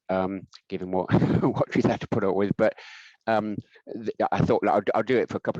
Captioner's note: laughing